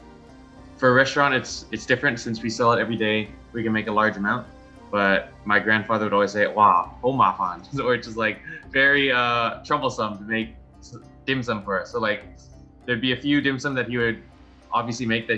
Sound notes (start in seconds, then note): 7.1 speaking Chinese